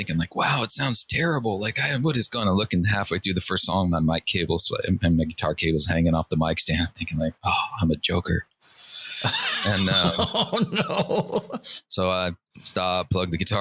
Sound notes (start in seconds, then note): 9.2 laughter